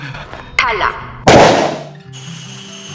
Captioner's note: gunshot